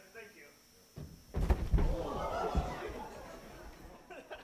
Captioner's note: laughing